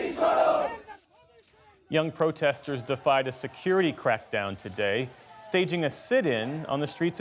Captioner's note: chanting